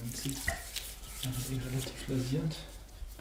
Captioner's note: he murmurs